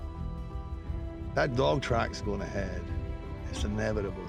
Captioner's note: scottish accent